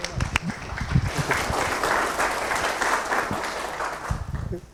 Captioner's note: attendees applauding